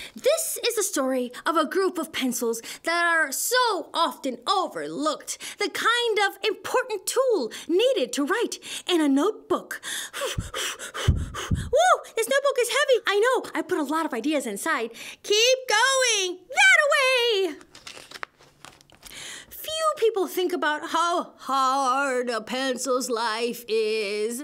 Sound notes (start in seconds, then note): 10.2 huffing and puffing